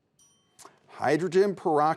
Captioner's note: bell dings